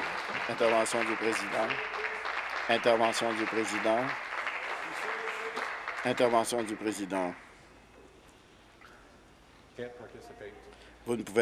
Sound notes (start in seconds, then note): 1.9 applause